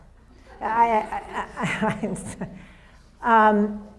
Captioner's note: audience laughs